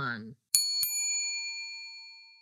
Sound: bell dings

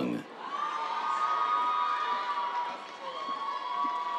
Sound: cheers, applause

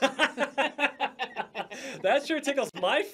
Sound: laughter

